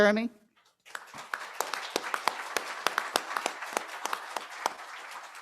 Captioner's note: applause